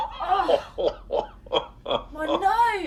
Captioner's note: laughing